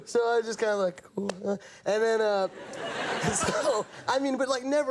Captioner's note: audience laughing